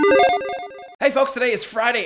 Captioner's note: logo beeps